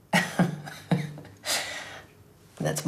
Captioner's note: laughing